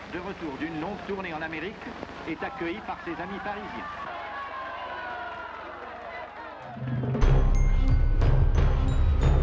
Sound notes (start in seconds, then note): 4.0 crowd cheering; 6.8 suspenseful music